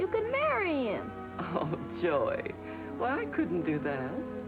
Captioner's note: laughs